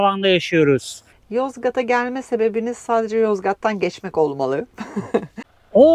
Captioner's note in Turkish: kahkaha